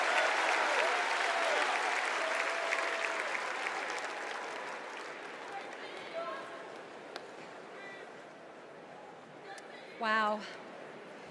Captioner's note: cheers and applause